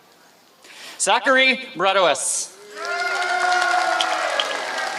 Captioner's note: applause